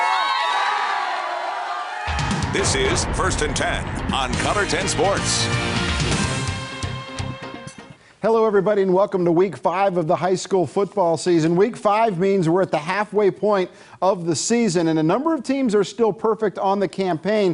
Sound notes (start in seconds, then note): 0.0 cheers